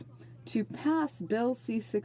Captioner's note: speaking in French